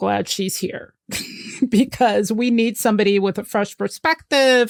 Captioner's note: laughs